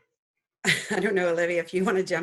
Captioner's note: laughs